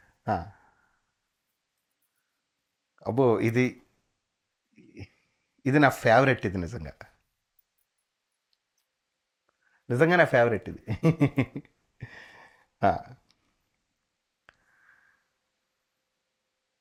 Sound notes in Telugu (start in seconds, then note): 10.8 నవ్వు